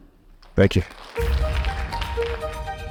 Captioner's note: audience applauding